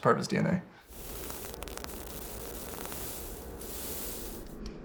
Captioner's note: wire fizzling